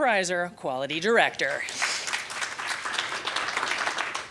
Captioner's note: applause